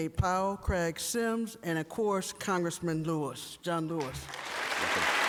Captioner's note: applause and cheering